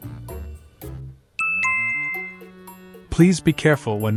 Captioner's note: chime